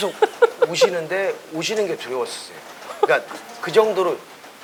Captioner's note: laugh